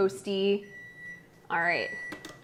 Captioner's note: timer beeps